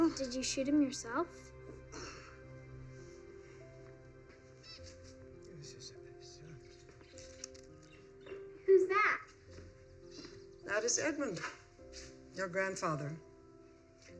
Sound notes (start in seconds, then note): 5.5 Violet baby talks to birds